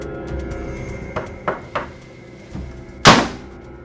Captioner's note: knocks; gun fires